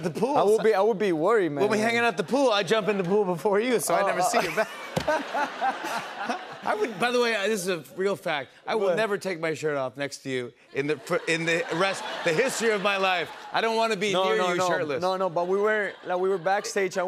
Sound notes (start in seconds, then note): 4.2 laughter